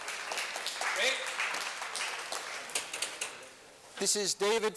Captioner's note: applause